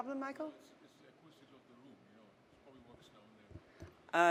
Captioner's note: murmurs